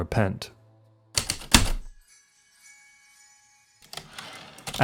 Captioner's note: heavy typewriter keystroke